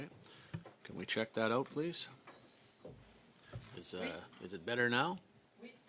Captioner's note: speaking French